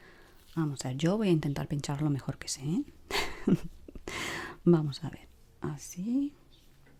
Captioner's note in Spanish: risas